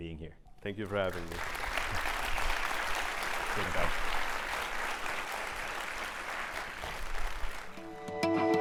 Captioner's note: applause